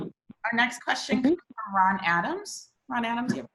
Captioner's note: speaks faintly